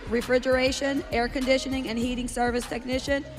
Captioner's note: none